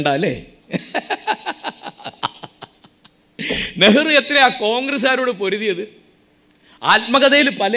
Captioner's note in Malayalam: പൊട്ടിച്ചിരി